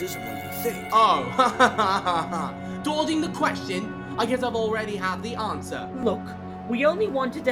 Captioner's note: sarcastic laugh